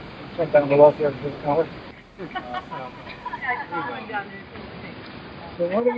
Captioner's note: laughter in response